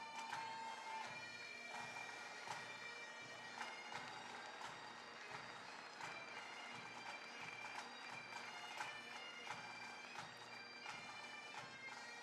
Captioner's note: applause; bagpipe music